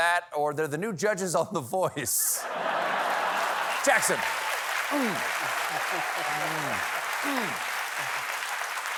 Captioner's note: laughter